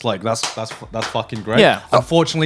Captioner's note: clapping hands